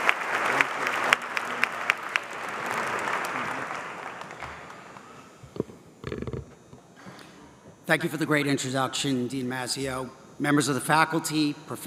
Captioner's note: applause